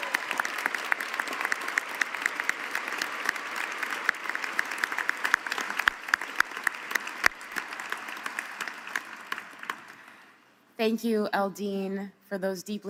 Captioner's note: cheering and applause